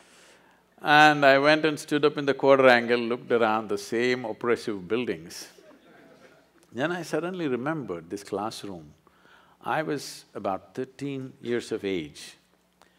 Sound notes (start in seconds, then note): 5.5 few laugh